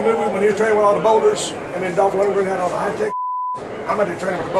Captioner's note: beep